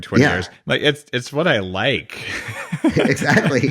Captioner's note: laughs